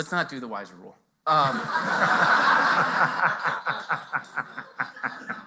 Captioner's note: laughter